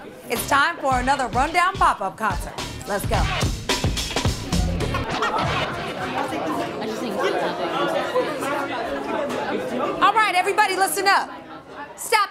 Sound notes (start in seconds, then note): 5.6 students chattering